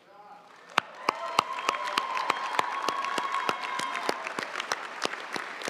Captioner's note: audience cheering and applauding